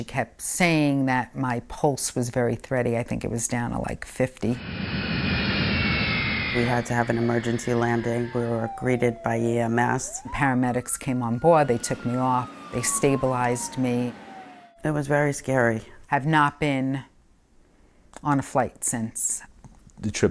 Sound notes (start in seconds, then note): 4.9 engine roaring; 9.6 siren wailing